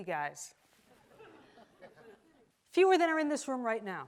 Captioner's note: audience laughs